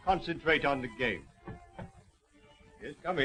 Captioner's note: knocking on door